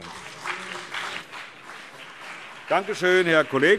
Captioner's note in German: Beifall BÜNDNIS 90/DIE GRÜNEN und CDU